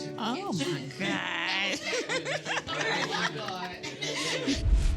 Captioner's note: all laughing